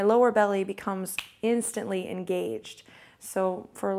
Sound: snaps fingers

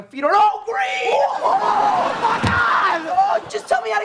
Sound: screaming

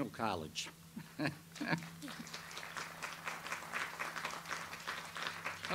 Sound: laughs; audience applauds

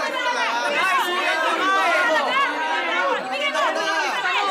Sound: clamoring

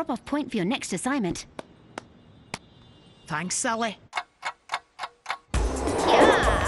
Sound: palm slapping; clock ticking; skateboard whizzing

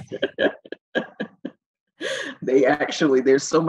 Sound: laughing together

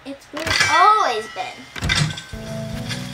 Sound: calm music; door shuts

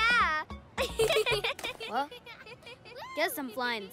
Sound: laughter

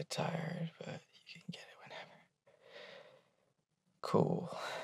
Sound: breath

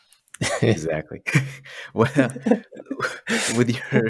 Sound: laughter

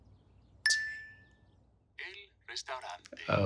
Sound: phone dings

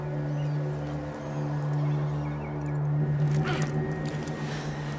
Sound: birds crying; wind howling; grunting and panting

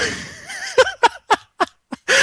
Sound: laughing

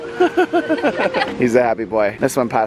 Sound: laughs

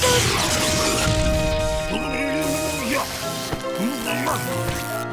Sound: grumbling

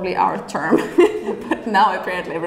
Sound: laughing

